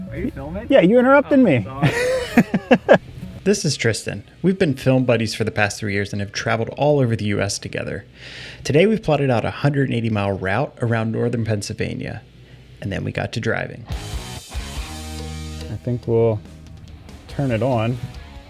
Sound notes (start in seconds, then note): 1.7 laughs